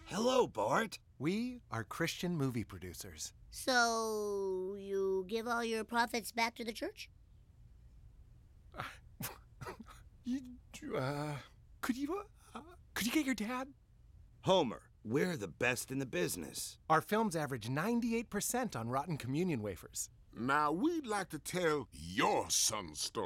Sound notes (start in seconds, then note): 8.7 coughs